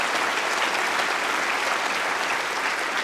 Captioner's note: applause